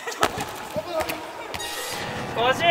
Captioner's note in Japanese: ボールが壁に当たる音